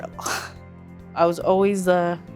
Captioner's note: laughing